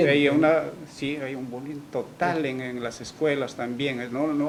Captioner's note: none